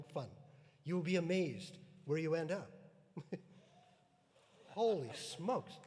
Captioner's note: chuckles